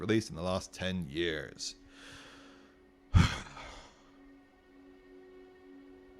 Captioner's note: breath